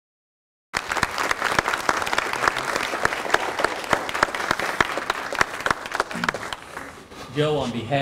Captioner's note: clapping